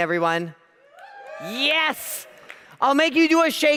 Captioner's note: audience cheers